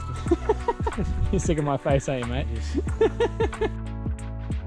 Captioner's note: lauighing